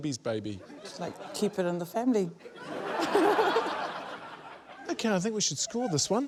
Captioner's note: laughter